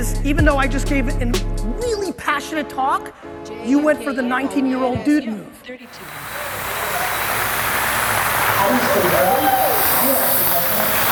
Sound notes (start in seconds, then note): 6.0 applause